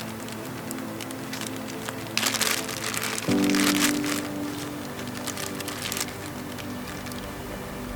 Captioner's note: crinkling sound of plastic bag